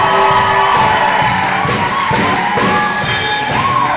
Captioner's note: audience applauds